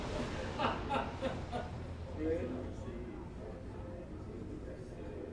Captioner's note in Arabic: رجل يضحك